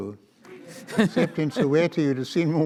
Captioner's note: audience laughs